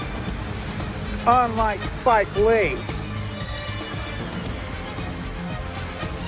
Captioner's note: sarcastic